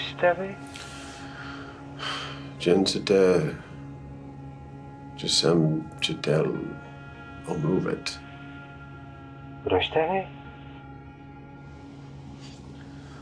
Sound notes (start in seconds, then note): 2.5 James speaking in Czech; 9.5 Radek speaking in Czech